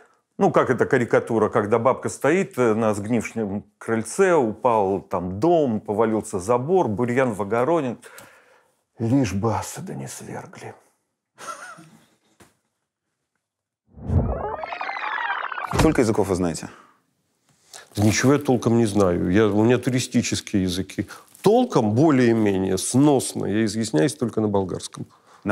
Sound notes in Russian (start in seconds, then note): 11.4 смеется